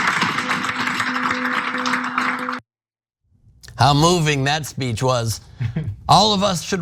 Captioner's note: laugh